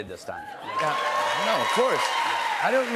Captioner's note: cheers and applause